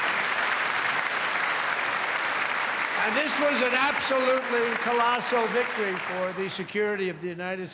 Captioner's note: cheers and applause